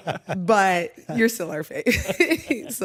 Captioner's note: laughter; laughs